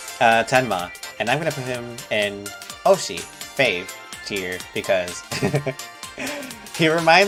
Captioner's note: chuckles